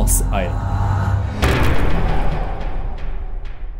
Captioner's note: impact